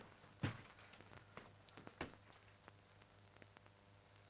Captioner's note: floor pattering